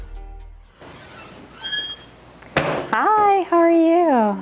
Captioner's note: door creaking